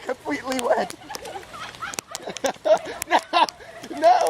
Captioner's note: all laughing